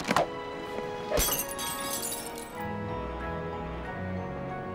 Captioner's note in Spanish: vidrio rompiendo